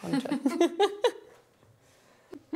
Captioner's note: laughter